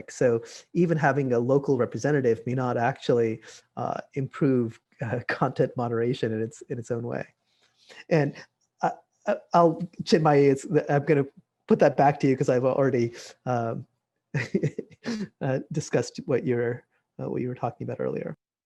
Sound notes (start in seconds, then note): 14.4 laughs